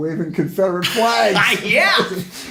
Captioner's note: both laugh